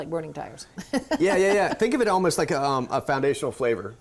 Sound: laughs

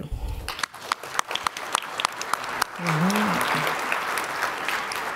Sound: audience applause

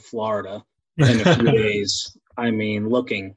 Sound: laughs

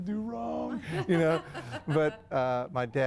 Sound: interviewer laughs

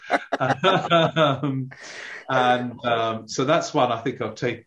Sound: laughing

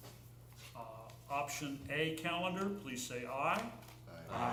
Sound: chorus of ayes

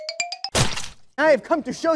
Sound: squish

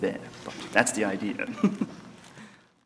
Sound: laugh

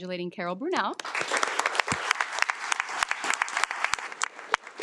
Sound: audience clapping

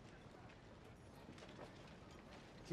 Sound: speaking in mandarin

